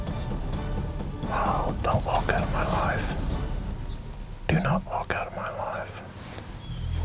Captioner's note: whispering